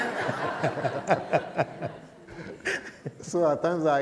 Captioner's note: laughter